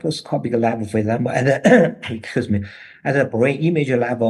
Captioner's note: he coughs